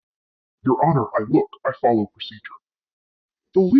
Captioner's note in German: verzerrt